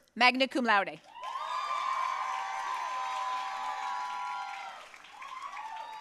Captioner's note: audience cheering and applauding